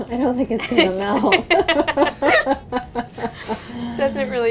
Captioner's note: laughing